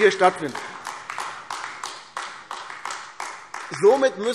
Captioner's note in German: Beifall AfD